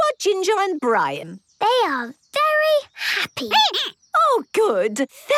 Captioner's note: squeaking